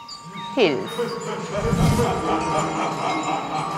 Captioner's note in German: dämonisches Lachen